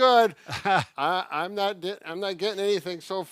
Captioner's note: laughs